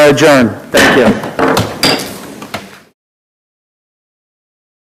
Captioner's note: gavel striking